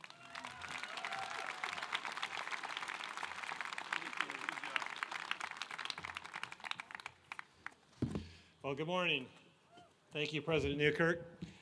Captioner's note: applause